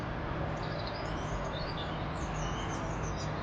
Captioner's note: birds chirp